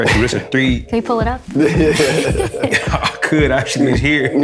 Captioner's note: laughter